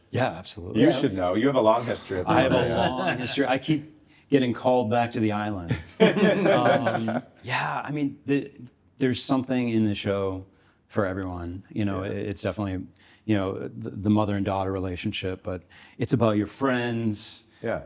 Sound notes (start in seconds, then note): 2.4 everyone chuckles; 5.8 everyone laughs